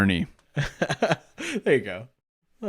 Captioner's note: laughs